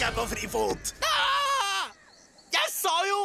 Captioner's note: screaming